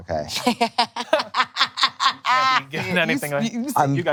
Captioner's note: laughing